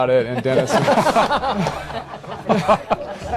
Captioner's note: laughter